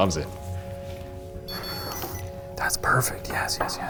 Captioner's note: REM-POD beeps